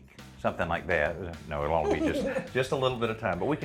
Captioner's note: laughs